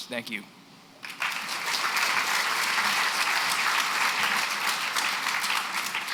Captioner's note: applause